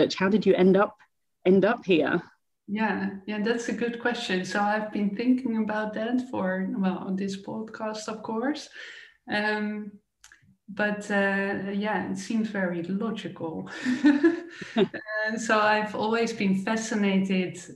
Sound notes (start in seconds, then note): 13.8 laughing